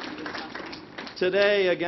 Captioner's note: applause